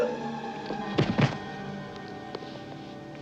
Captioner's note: thud